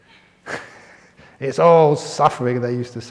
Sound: chuckles

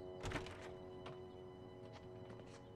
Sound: A sound of building door opening

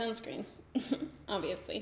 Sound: giggles

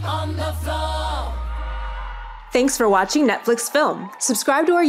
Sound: group cheering, applauding

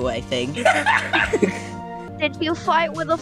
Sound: beeg obnoxious laugh

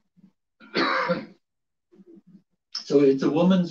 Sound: coughs

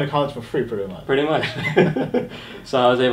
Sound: laughs

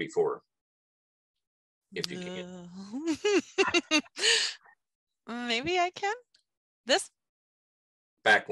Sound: laugh

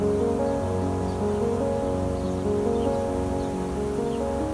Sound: bees buzzing

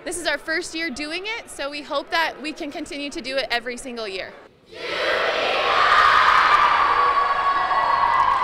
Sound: applause

